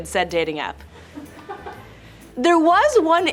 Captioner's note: laughter